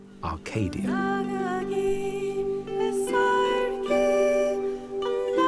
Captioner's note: German spoken audio